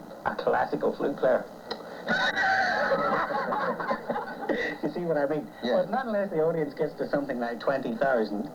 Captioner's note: laughs